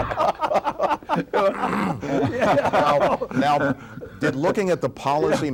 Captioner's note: laughs